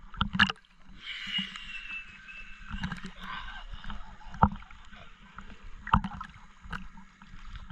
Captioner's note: total exhale